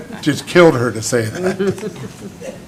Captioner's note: laughter